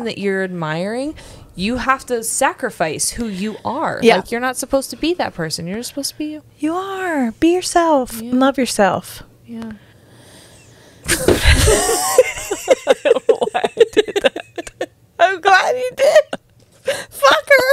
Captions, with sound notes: that you're admiring, you have to sacrifice who you are. Like you're not supposed to be that person, you're supposed to be you. - You are, be yourself, and love yourself. - Yeah. (panel laughing) Why I do that? (laughs) - I'm glad you did, fucker.